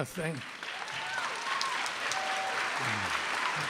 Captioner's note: applause